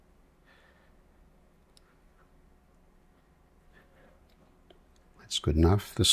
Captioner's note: silence